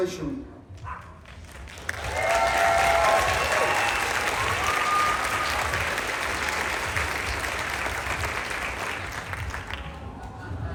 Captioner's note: applause, Cheering